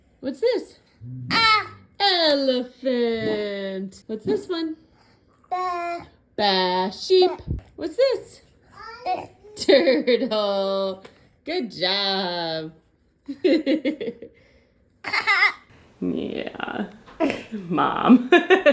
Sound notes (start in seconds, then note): 1.2 vocalizing; 9.2 vocalizing; 13.3 laughing; 15.2 vocalizing